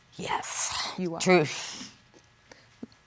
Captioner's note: exhales